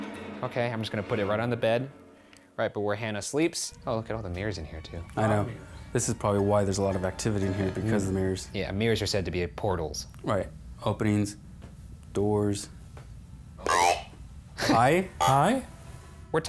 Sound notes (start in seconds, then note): 14.0 electronic beeping